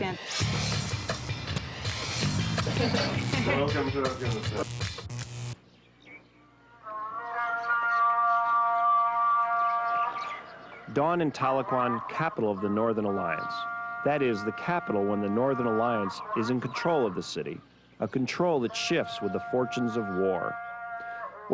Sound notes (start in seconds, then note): 0.0 dramatic instrumental music; 4.1 electricity buzzing; 4.8 birds chirping; 6.7 chanting music